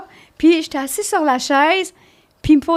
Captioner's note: in french